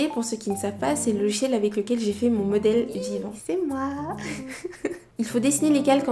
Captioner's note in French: rires